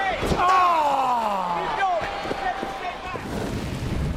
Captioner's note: Undertaker groans